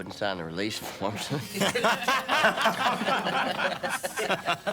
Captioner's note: laughing